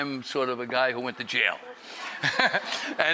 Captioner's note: laughter